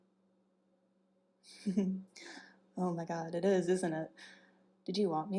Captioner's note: giggles